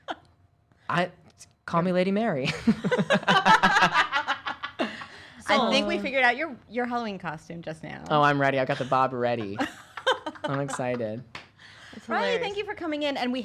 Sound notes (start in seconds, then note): 2.5 all laughing; 9.4 laughing